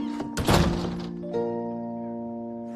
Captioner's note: slams door